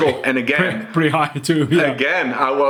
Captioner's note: chuckles